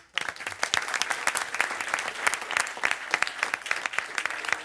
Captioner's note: crowd applauds